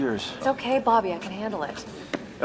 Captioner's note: none